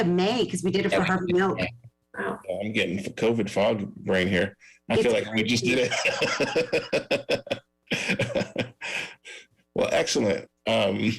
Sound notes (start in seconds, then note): 6.8 laughs